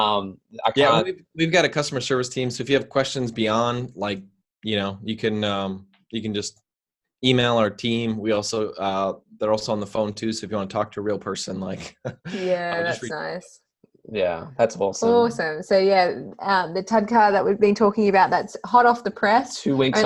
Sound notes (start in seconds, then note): 11.6 chuckles